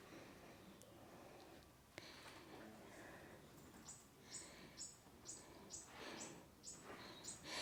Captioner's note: 🐦 birds chirping 🎶